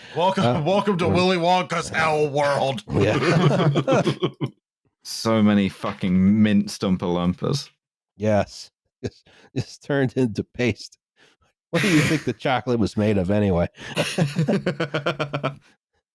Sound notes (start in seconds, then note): 2.8 laughter; 13.8 laughter